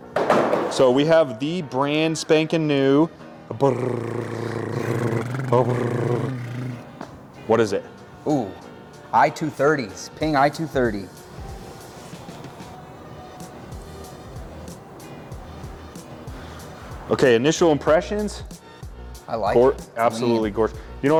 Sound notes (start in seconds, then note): 3.6 both blowing a raspberry; 12.7 soft music